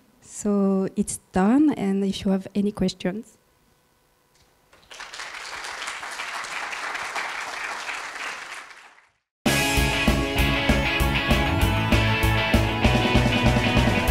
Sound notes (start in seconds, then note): 4.7 applauding; 9.4 upbeat rock music